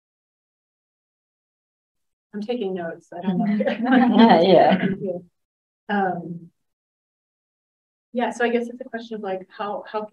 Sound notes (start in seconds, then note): 3.3 laughs